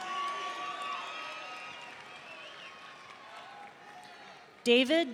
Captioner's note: audience cheering